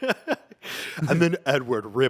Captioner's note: laughs